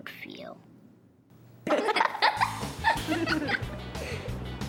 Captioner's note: giggling